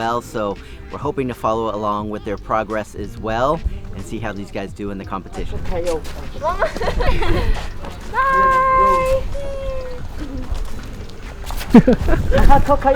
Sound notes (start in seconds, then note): 5.8 crowd speaking